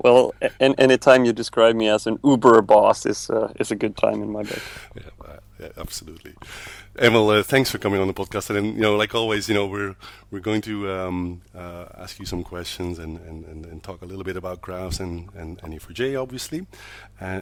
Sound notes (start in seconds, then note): 4.4 laughs